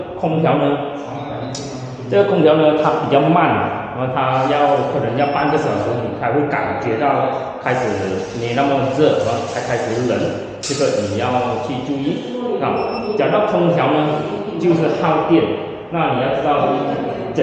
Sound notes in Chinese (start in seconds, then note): 14.0 冷气机